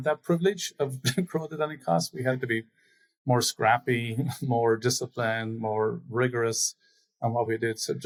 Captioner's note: laughs